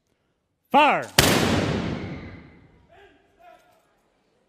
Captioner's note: gunshots